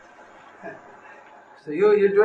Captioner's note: laughs